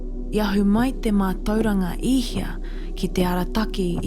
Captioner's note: foreign language